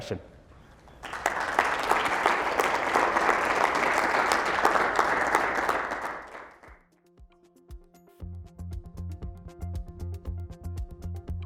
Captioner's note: applause